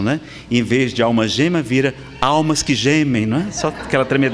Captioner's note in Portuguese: risadas